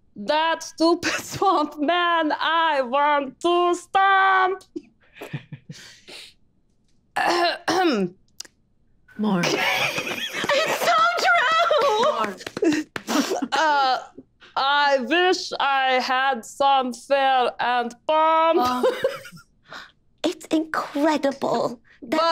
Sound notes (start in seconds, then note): 7.2 Jasmine clears her throat; 9.4 group snickering